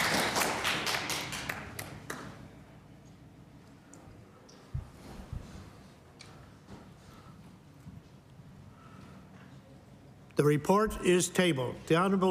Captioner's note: applause